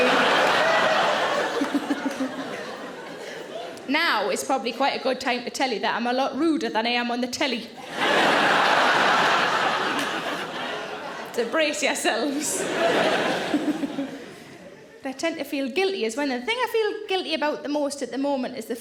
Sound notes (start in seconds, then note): 0.0 audience laughing; 1.8 Sarah laughing; 7.8 audience laughing; 13.4 Sarah laughing